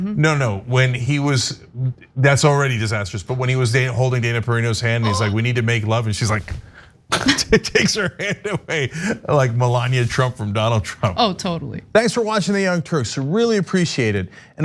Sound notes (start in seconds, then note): 5.0 laugh